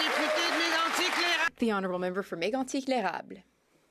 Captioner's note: some Applause